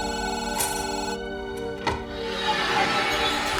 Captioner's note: phone ringing